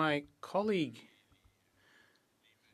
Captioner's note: speaking French